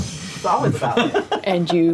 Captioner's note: laughs